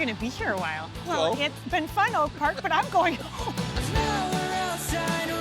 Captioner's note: laughing